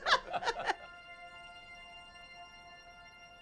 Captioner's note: laughing; laughs